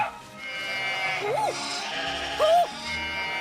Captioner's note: sheep all bleat